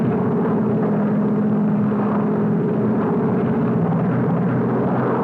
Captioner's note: engine roar